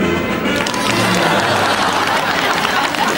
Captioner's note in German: Jubel und Applaus